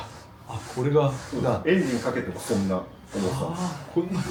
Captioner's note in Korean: 콧방귀